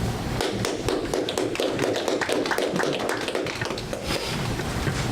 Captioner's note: audience applause